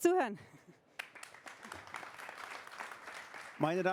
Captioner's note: applause